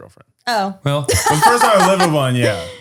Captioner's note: laughs